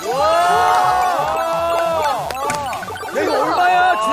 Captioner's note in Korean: 함성과 박수